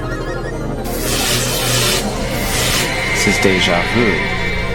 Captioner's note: electricity zapping